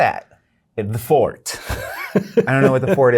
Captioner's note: laughs